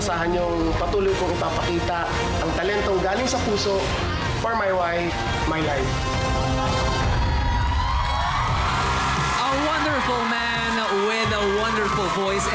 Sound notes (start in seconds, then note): 7.2 applause